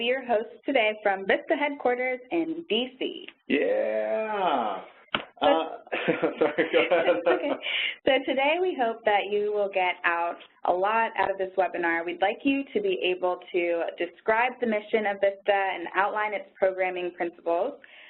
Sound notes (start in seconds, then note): 5.6 both laughing